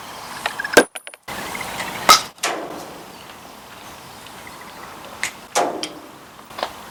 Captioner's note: casings landing